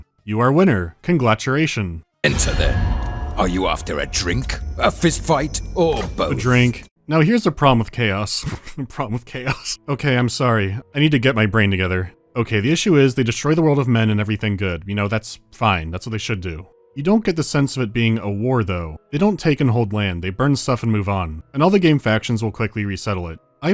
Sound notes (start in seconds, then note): 8.2 aside, snickering